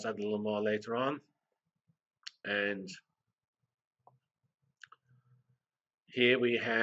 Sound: pause

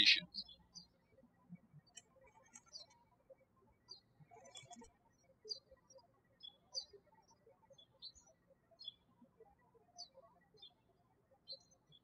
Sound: birds chirping

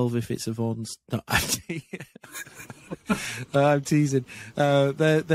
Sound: laughs

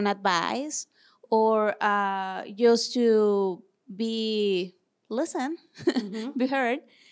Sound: laughs

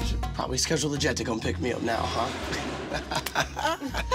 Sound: laughs

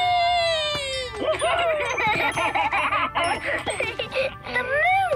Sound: laughing

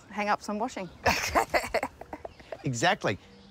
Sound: both laugh

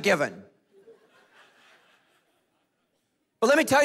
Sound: congregation laughing

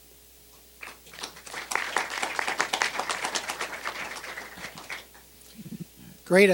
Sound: applause

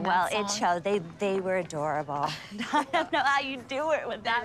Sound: laughs

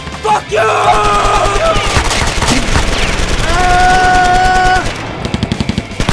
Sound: gun firing; shouting

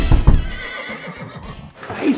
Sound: knocking; neighing

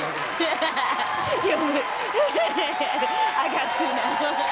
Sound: laughs

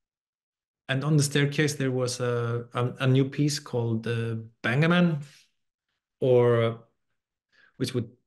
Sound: non-english

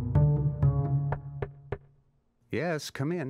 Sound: knocking

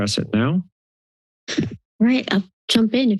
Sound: mic thump

